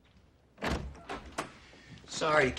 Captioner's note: door creaking